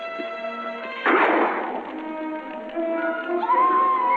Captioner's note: gunshot; woman screaming